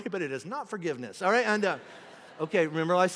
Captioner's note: congregation laughing